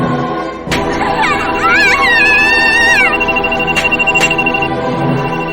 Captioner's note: screams